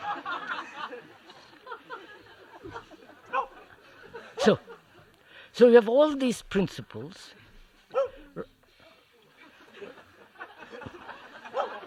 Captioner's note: laughter